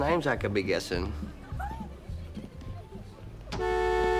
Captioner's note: giggling